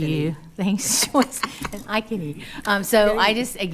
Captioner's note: laughing